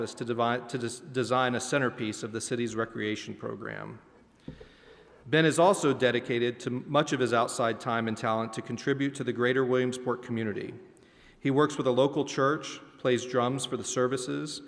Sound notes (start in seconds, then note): none